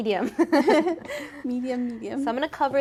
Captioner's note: both laughing